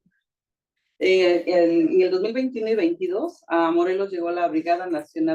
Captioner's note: speaking Spanish